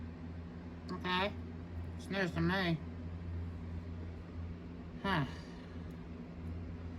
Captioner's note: sighs